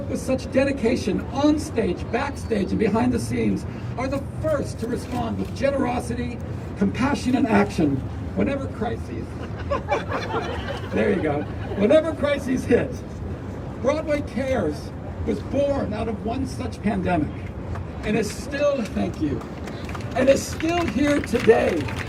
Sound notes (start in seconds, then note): 9.3 crowd laughing; 19.6 crowd applause; 20.6 crowd cheering